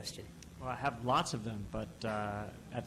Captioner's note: voiceover